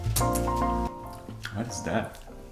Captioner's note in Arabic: أصوات التقبيل